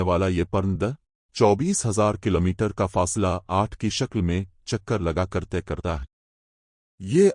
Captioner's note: Arabic